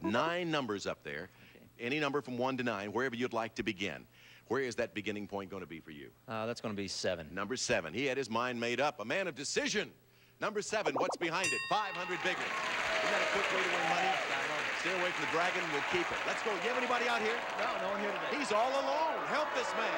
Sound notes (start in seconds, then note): 12.3 audience applauding